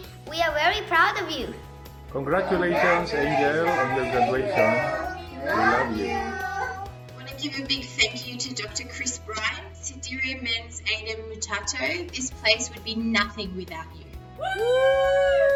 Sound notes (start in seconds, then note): 9.3 speaks faintly